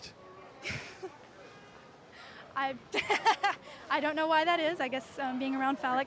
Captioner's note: laughs